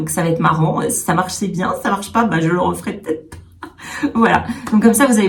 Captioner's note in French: rires